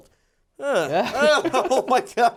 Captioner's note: laughs